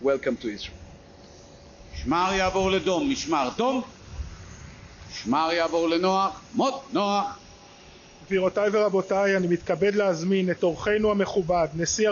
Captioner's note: speaks Hebrew